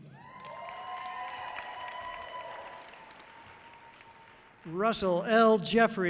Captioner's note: audience cheering loudly